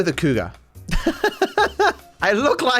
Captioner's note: laughs